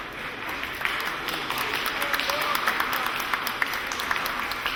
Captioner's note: audience applauding